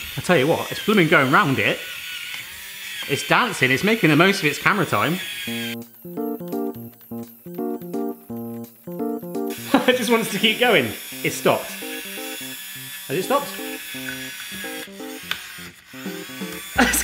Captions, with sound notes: I tell you what, it's blooming going round it. It's dancing, it's making the most of its camera time. (funky music) (laughs) It just wants to keep going. It stopped, has it stopped? (laborious whirring)